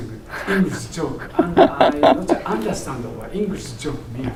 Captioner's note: laughing